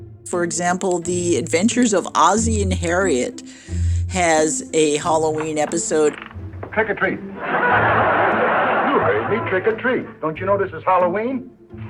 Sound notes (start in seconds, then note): 5.7 soundbite of tv show, "the adventures of ozzie and harriet"; 7.3 laughter